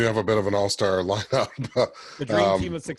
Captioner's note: laughs